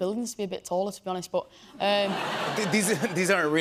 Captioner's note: laughter